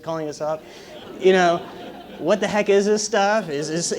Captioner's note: laugh